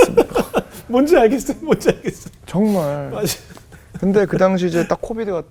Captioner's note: laughing